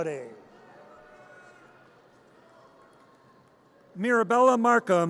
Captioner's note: audience cheers